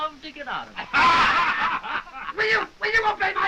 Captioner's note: all laughing